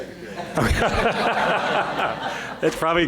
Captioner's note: laughter